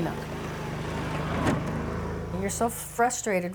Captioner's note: ATV motor